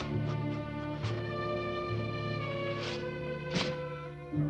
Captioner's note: shovel thudding